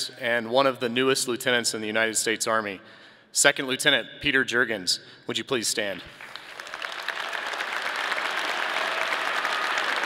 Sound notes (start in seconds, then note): 6.1 audience clapping